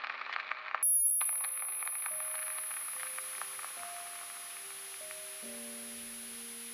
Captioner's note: static crackling; high-pitched tone ringing